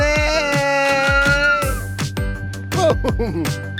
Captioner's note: yells